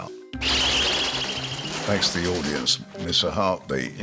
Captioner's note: wings flutter; pigeon chirps